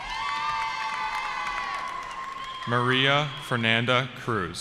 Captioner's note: cheering